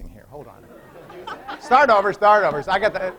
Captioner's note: laughter